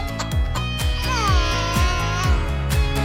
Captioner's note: laughing; crying